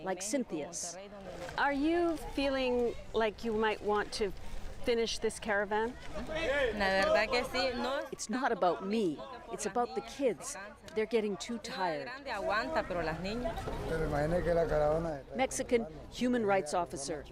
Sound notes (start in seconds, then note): 11.1 speaking foreign language